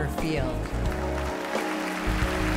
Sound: claps loudly; crowd cheering

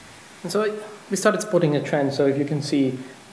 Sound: german

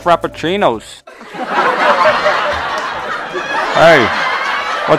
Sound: laughing

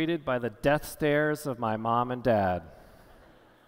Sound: none

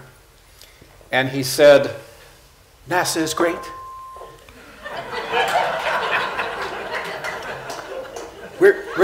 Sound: laughter

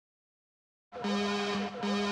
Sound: alarm

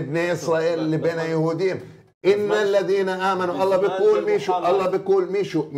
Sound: speaking in Arabic

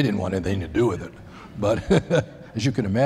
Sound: laughter

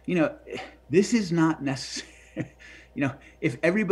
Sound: chuckling

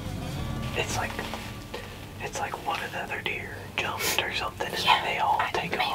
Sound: whispering

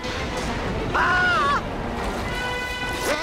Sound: screaming

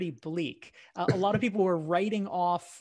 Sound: laughs

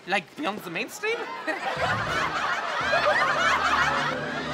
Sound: laughing

